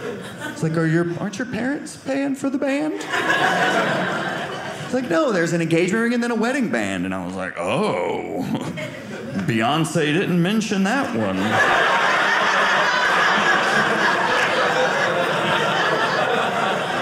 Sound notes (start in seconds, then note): 11.1 audience laughing